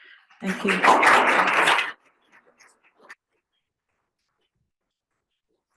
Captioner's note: audience applauding